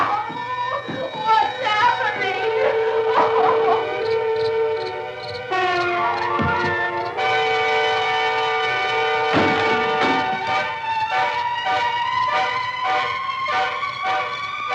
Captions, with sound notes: What's happening? [crickets] [dramatic music]